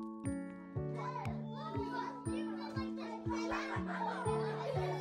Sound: students chattering

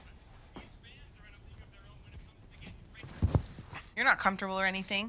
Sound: TV playing

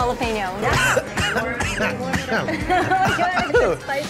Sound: coughs

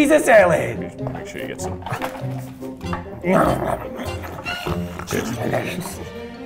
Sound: grunting

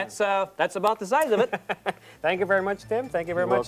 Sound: laughter

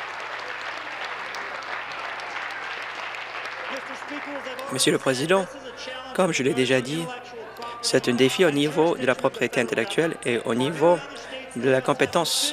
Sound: some Applause

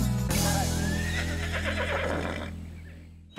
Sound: horse neighs

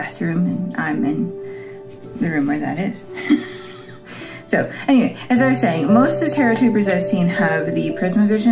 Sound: laugh

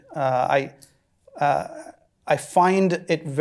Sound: stammering

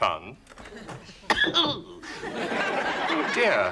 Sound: coughs

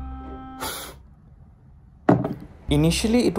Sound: blowing

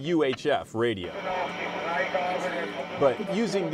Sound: radio chatter

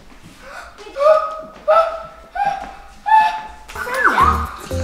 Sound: excited gasping

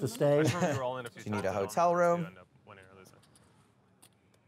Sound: laughs

